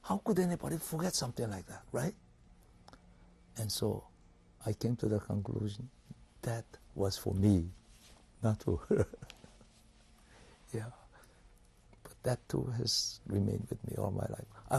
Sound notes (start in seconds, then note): 8.7 laughs